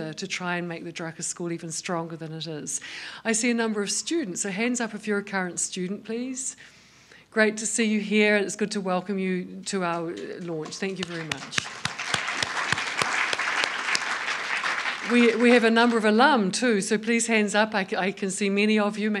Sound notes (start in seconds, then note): 10.1 applause